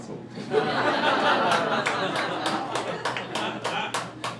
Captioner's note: crowd laughing